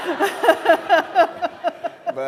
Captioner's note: laughter